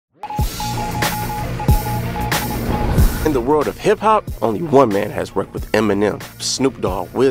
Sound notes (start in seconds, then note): 0.2 radar beeping